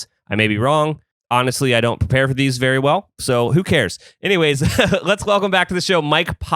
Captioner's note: laughs